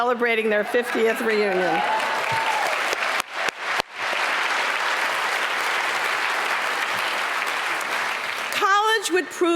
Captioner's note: applause